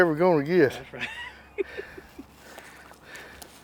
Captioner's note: laughing